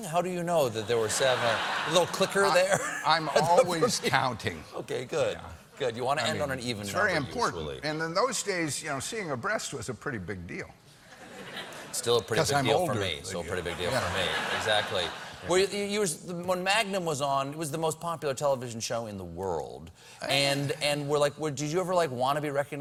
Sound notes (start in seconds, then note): 8.5 laughter